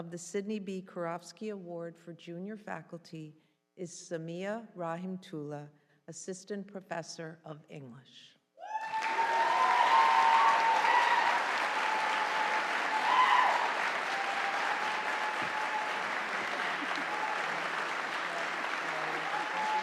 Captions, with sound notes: of the Sydney B. Karofsky Award for Junior Faculty is Samia Rahimtoola, assistant professor of English. (audience cheering) (audience applauding)